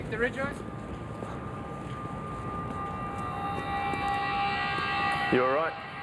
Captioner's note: faintly speaking